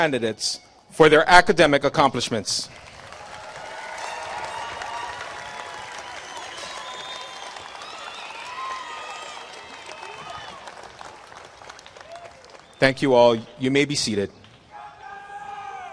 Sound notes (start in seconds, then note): 4.3 applause